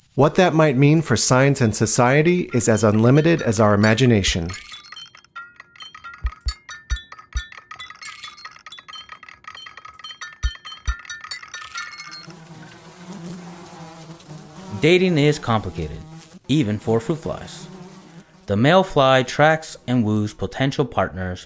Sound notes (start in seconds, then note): 11.8 flies buzzing